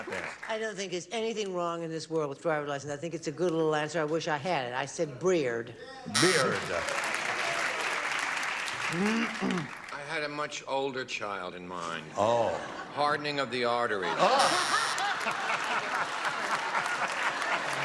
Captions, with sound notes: WHAT DO YOU GOT THERE? I DON'T THINK THERE'S ANYTHING WRONG IN THIS WORLD WITH DRIVER'S LICENSE. I THINK IT'S A GOOD LITTLE ANSWER. I WISH I HAD IT. I SAID BEARD. BEARD. [WRONG BUZZER] [CLAPPING] [CHARLES CLEARING THROAT] I HAD A MUCH OLDER CHILD IN MIND. OH. HARDENING OF THE ARTERIES. OH. [WRONG BUZZER] [LAUGHING]